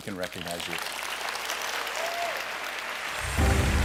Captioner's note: applause